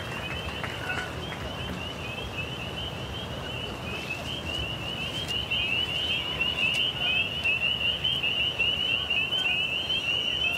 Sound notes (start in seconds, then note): 0.0 frogs chirping